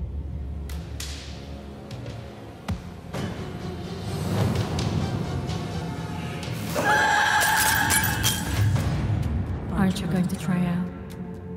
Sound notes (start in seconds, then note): 6.5 otherworldly scream